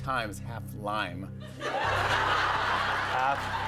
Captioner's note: laughter